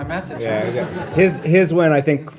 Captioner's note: laughter